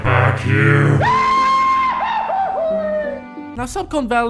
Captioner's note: goofy Scream